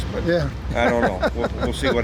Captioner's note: laughs